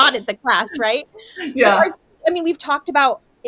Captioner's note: laughs